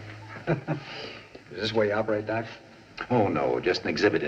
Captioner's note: chuckles